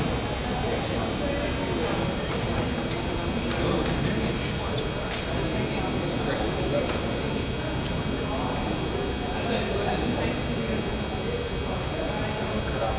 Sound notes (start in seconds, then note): 7.2 crowd chatters